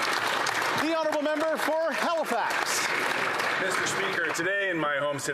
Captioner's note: some Applause